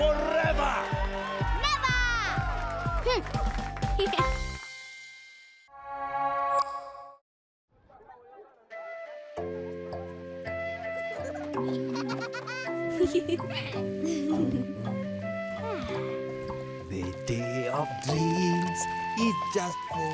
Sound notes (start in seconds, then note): 9.4 giggling